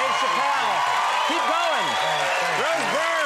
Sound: applause

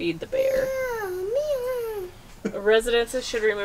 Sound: humming

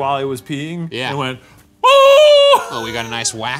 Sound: screaming

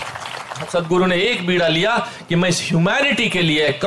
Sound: applause

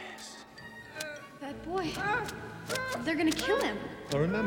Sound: groaning

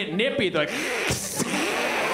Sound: hissing

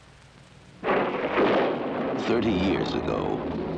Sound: thunderclap

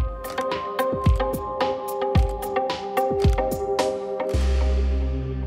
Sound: camera clicks

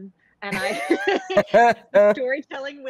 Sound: group laughs

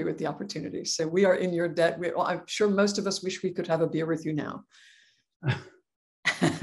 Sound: laugh

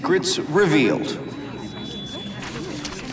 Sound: all murmuring excitedly

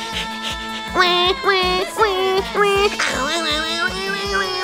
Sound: imitates crying baby

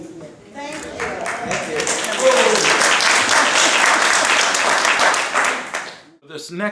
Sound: applause

